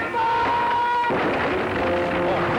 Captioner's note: crash